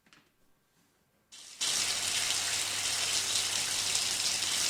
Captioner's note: water running